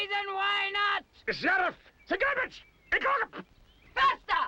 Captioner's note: barking commands